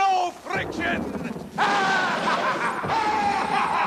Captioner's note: evil laughter; thunder rumbling